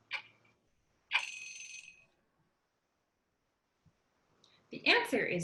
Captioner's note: alarm ringing